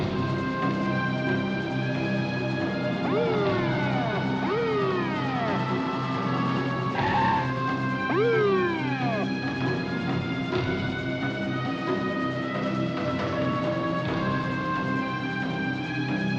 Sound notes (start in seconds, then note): 0.2 dramatic music; 2.8 police siren; 6.9 tires screech